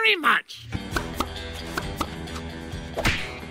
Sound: suction cup popping noises

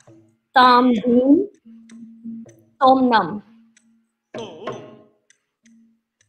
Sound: speaks in Indian language

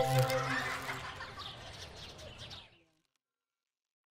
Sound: xylophone scale chimes; children laughing, birds chirping

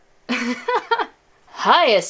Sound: laughs

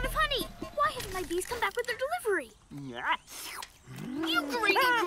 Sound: slurping

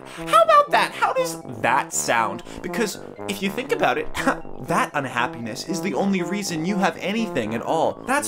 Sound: scoffs

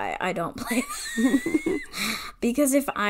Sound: wheeze laughs

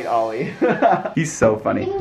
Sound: laughing

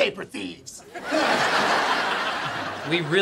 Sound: laughing

